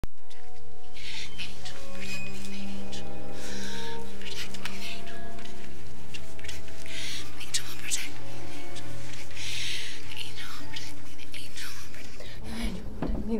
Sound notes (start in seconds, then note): 0.0 suspenseful music; 2.9 gasps; 6.8 gasps; 12.6 object thuds